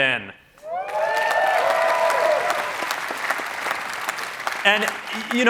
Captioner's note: cheering